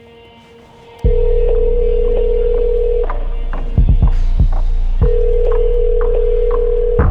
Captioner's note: dramatic music; phone rings